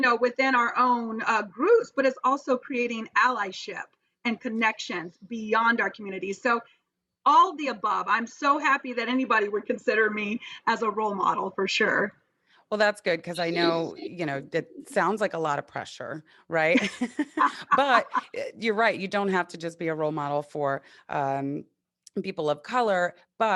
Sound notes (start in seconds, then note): 16.7 laughs